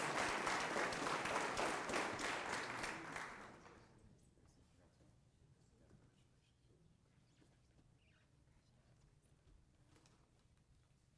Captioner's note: applause